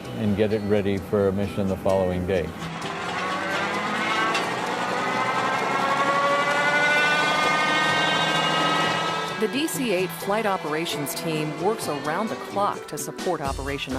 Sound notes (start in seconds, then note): 2.7 engine starts